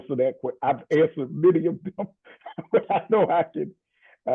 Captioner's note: laughs